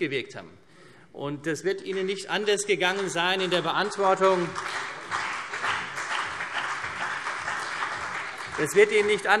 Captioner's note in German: Beifall CDU und BÜNDNIS 90/DIE GRÜNEN